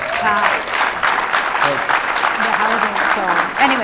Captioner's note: audience applauding